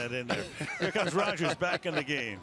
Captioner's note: laughter